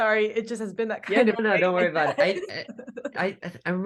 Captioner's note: laughs